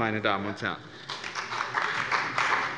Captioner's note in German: Beifall bei dem BÜNDNIS 90/DIE GRÜNEN und der CDU